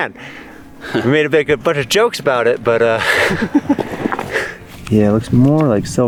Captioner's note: chuckles